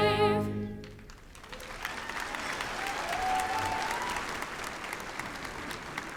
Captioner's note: applause